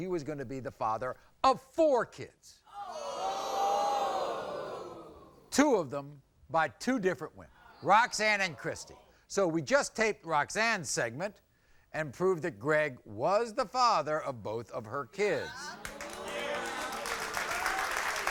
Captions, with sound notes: he was gonna be the father of four kids. (audience groans) Two of them by two different women, Roxann and Kristie so we just taped Roxann's segment and proved that Greg was the father of both of her kids. (applause)